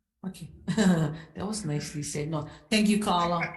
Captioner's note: laughing